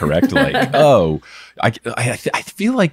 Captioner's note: laughing